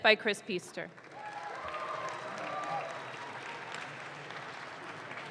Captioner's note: audience claps